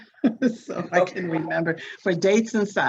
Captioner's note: laughs